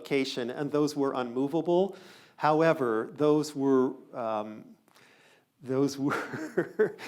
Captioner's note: laughs